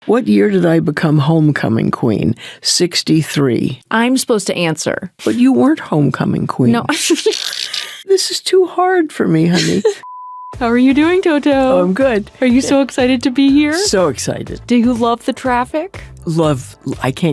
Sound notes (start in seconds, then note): 6.9 laughing; 10.0 screen beeping